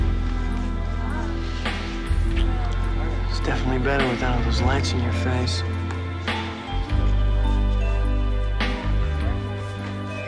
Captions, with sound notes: (smooches) - It's definitely better without those lights in your face. (soft music continues)